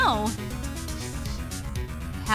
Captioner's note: sniffs